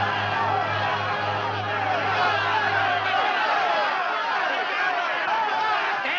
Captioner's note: townsfolk clamoring